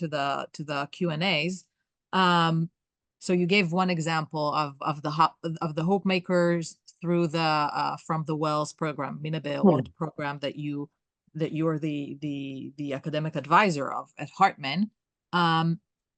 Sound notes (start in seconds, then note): 9.4 hebrew